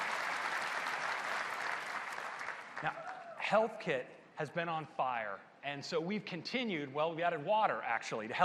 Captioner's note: applause